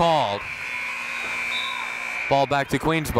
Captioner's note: buzzer blaring